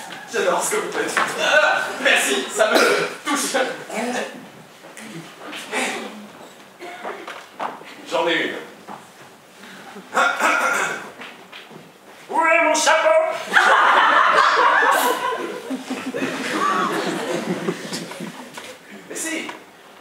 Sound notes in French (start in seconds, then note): 13.4 Rires